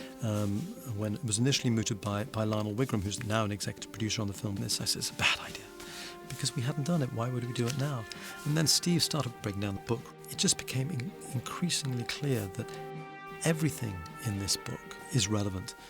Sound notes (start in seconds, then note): none